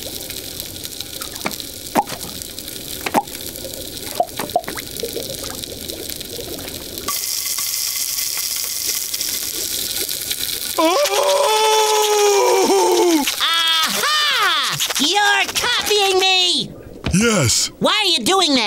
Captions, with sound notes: [screaming] A-ha! You're copying me! -Yes. -Why are you doing that?